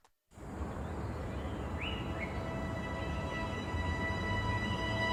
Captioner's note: birds chirping